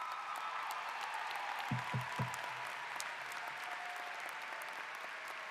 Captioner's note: applause